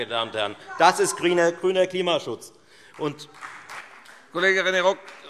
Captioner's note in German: Beifall Freie Demokraten